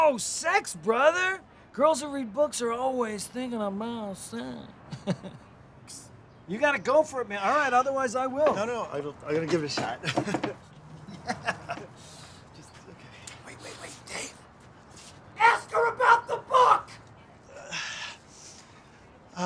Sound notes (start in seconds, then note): 13.8 whispering; 15.2 shouting